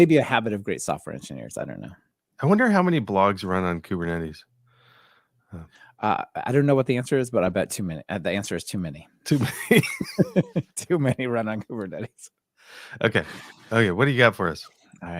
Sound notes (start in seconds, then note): 9.5 laughs